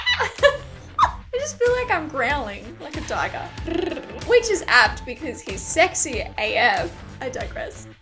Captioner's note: growls